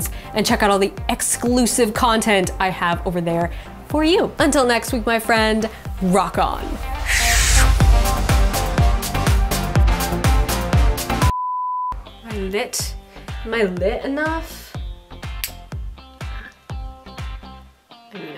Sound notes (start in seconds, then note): 7.9 bright music; 11.3 beep; 15.2 bright music